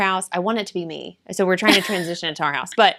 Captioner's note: laughs